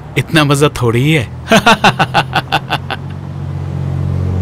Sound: laughs

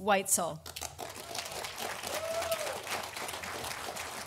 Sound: audience applauding

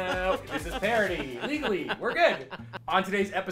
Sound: laughs

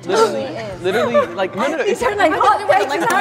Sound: laughs

